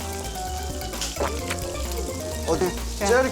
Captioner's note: swallows